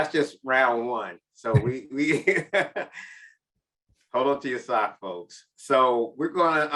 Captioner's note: chuckles